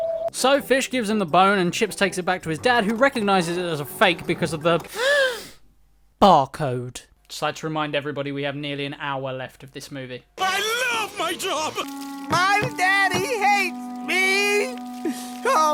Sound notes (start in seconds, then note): 4.9 inhale